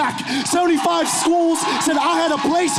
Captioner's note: audience cheering